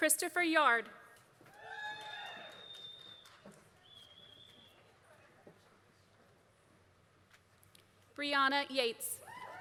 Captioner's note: applause; applause